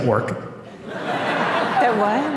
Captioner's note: laughter